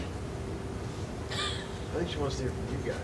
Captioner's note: laughs